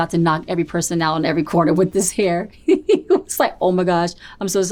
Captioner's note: laughs